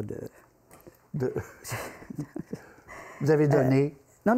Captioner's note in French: rires